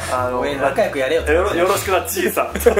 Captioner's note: laughs